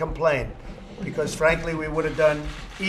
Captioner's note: laughter